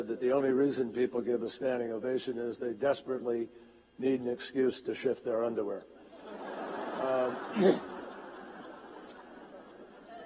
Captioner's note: laughter